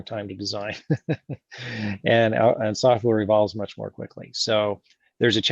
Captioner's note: laughs